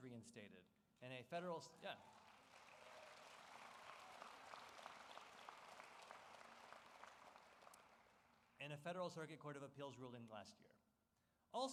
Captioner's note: applause